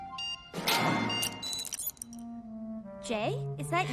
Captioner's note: beeping